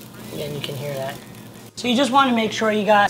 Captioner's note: grill sizzles